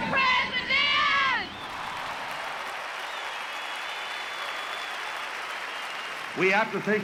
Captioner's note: audience applauding, cheering, and whistling